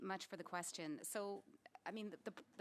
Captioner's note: speaking French